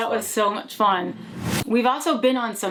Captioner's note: logo whooshing